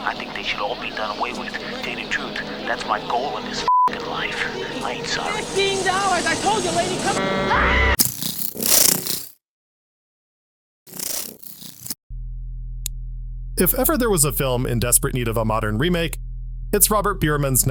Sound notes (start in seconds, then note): 7.4 scream